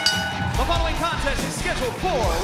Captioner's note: bell ringing